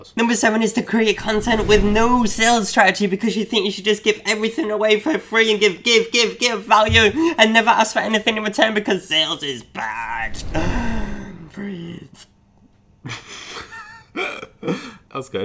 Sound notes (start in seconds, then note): 10.4 gasps; 13.2 laughs